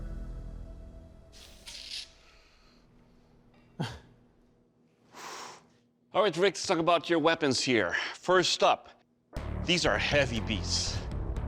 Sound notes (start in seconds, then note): 4.4 laughs; 5.0 exhales